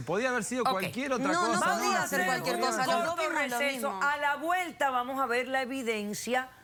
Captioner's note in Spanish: Hablan al unísono